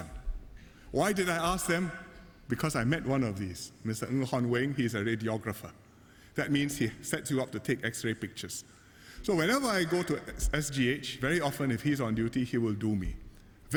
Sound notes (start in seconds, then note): none